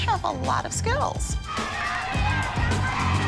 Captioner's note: chanting